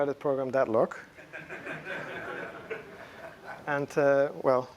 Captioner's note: laughter